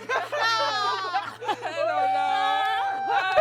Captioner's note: laughing